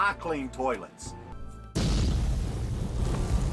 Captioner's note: explosion